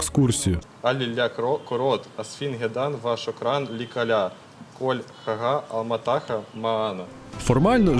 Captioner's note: Arabic speech